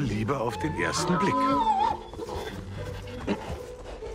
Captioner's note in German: Wiehern